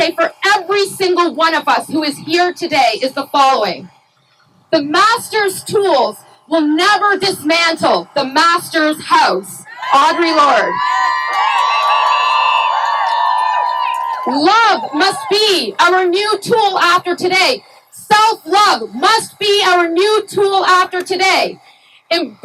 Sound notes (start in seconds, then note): 9.6 cheering